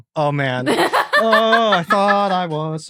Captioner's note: laughs heartily